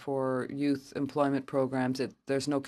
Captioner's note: speaking French